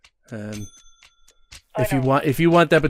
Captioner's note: over the phone